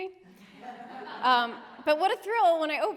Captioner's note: laughter